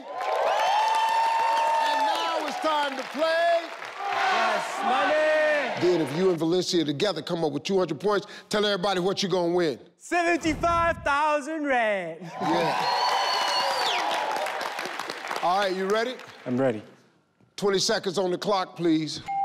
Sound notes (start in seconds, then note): 0.0 crowd cheering and clapping; 4.2 crowd; 12.2 crowd cheering; 19.2 timer chimes